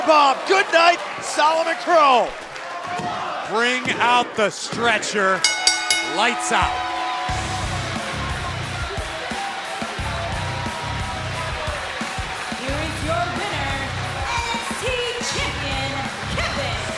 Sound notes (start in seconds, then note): 5.4 bell rings; 10.8 cheers & applause